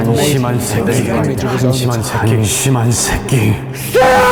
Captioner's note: overlapping. Same versus in Korean